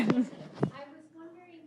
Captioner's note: laughs